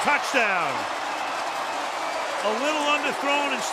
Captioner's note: cheering